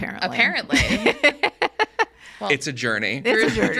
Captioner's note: laughing